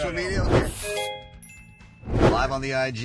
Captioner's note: chiming